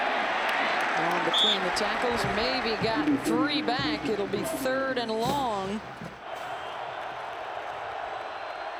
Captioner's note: applause